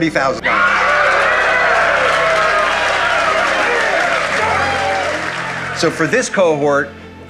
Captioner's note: applause